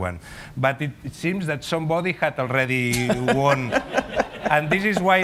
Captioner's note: laughter